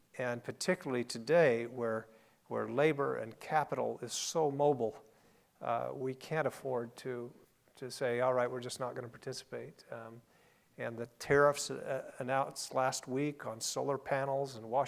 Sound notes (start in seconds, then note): none